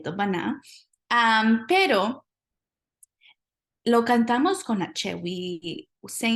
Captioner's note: speaking spanish